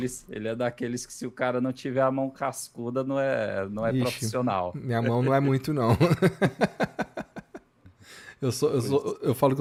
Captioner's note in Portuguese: risadas